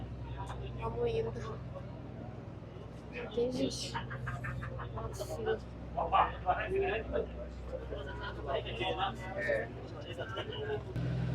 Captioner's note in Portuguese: risadas